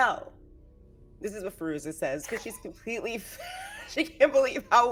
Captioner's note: laughs